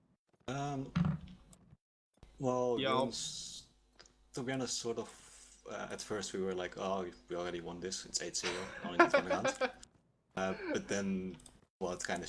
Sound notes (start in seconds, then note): 8.5 laughs